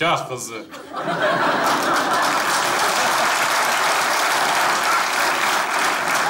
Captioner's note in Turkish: Kahkaha ve alkış sesleri